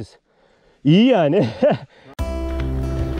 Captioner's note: loughs